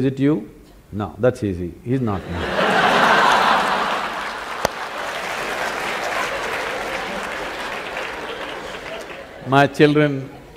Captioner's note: laughter/Applause